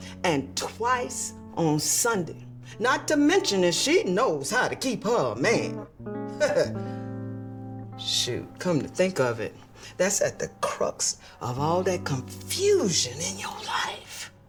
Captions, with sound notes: And twice on Sunday. Not to mention that she knows how to keep her a man. [chuckling] Shoot, come to think of it, that's at the crux of all that confusion in your life.